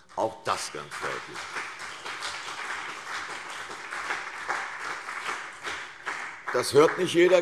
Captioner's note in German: Beifall CDU und vereinzelt BÜNDNIS 90/DIE GRÜNEN